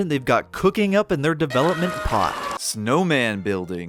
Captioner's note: horrified screaming